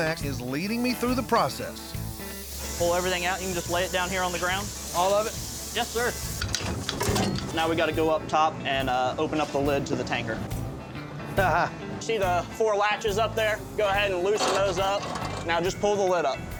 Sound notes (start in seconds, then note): 11.0 chuckles